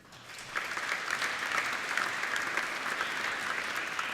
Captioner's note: applauding